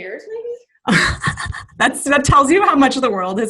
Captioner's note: laughing